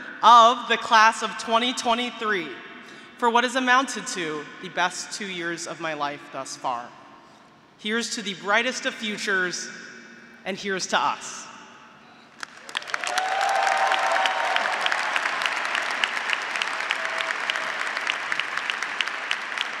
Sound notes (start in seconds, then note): 12.5 graduates cheering; 14.6 graduates, audience, and faculty applauding